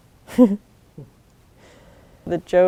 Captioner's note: laughs